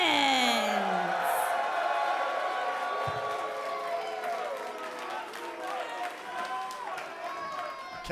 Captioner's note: cheers & applause